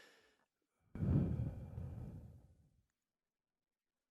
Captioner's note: air hums